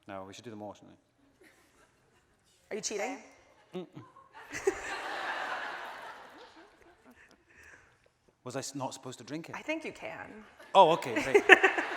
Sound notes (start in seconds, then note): 4.0 audience laughing